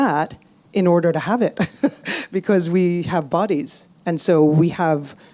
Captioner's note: laughs